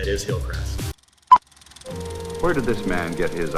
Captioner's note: filmstrip whirring